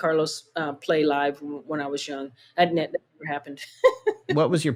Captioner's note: laughter